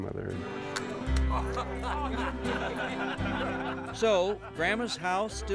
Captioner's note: laughter